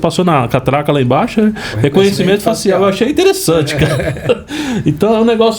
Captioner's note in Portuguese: risadas